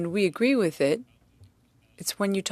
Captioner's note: speaking French